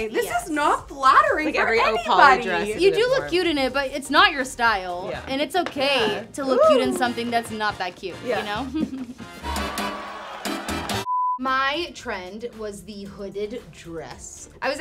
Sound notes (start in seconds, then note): 9.8 TV beeps; 9.8 salsa music